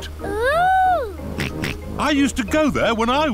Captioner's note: snorts